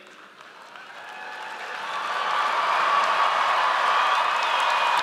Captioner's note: audience cheers